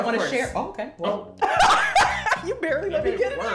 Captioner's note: laughs